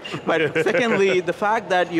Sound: laughing

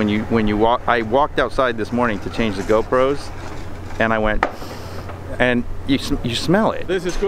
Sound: inhales

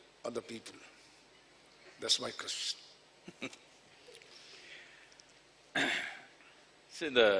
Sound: Sadhguru laughs

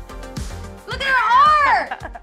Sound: laughs

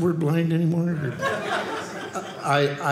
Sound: audience laughing

